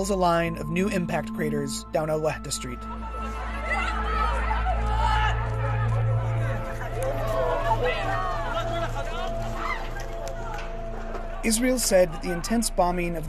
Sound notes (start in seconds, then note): 3.6 shouting